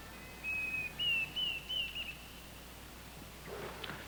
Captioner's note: birds singing